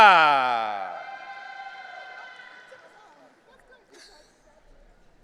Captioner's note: audience cheering